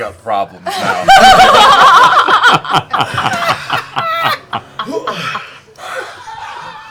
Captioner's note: laughter